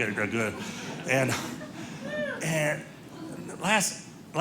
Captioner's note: audience laughing